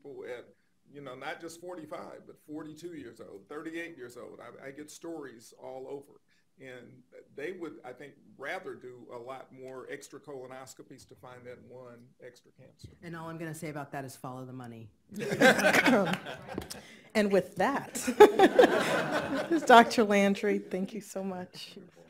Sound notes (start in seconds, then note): 15.2 laughing